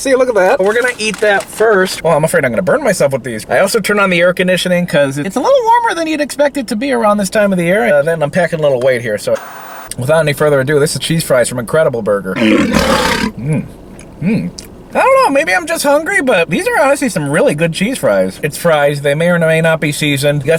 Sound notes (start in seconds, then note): 12.3 lion roars